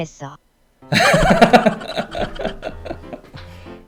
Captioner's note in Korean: 웃음소리